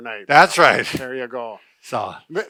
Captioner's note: laughs